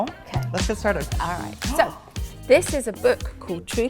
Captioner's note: gasps